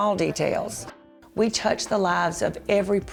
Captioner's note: voice-over